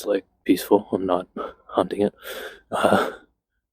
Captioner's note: chuckles